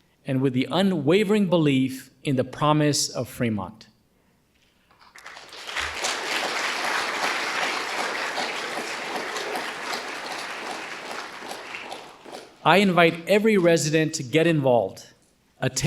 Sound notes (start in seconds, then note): 5.0 audience applauding